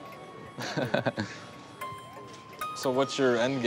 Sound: laughing

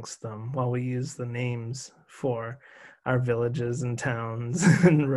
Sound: chuckles

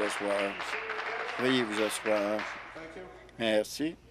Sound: some Applause

